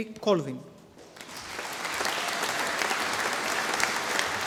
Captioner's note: audience applauding